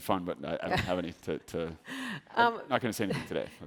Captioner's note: chuckles